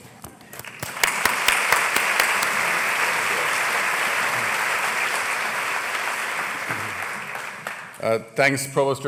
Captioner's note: applause